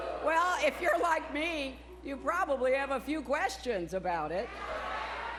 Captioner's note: crowd booing